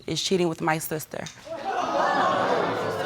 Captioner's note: audience exclaim